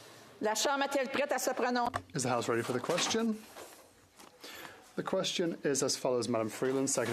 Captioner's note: speaking French